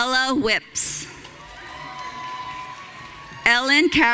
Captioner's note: audience cheering